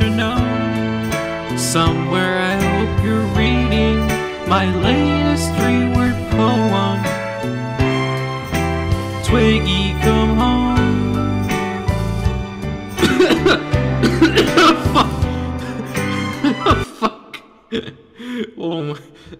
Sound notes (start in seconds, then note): 13.0 coughs aggressively; 16.4 laughter